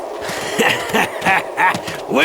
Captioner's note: cackling laughter